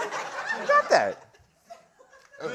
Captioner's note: laughter